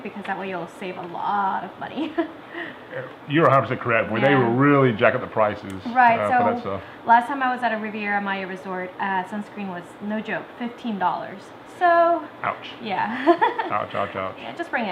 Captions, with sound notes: because that way you'll save a lot of money. (laughs) - You are absolutely correct. They really jack up the prices for that stuff. - Last time I was at a Riviera Maya resort, sunscreen was, no joke, $15. - Ouch! Ouch, ouch, ouch!